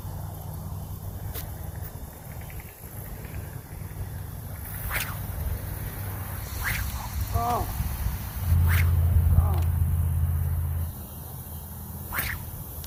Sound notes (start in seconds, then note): 4.8 sling whips; 7.7 splash; 8.5 sling whips; 9.6 splash; 12.0 sling whips